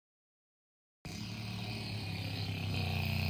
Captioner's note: snoring